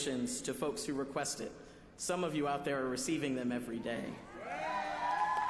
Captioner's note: applause